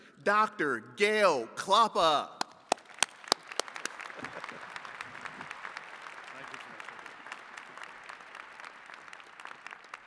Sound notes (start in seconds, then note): 4.1 chuckles; 4.2 attendees clapping